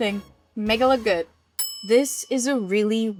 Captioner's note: bell dings